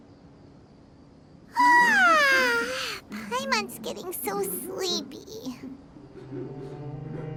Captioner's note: yawn